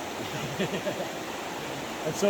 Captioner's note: laughs